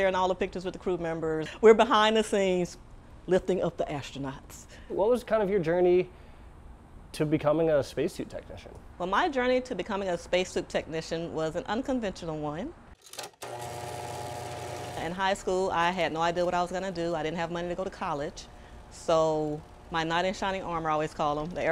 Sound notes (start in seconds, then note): 13.1 film reel clicks and hums